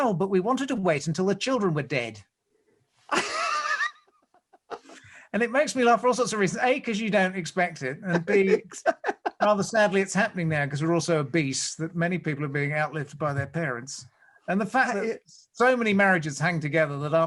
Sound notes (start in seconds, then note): 3.1 laughs; 8.0 laughs